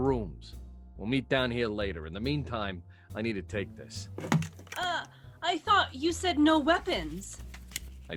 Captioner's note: sound of gun click with bullets jingling into a palm